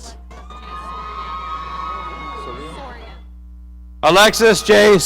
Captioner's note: audience cheering